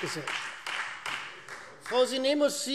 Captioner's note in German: Beifall Freie Demokraten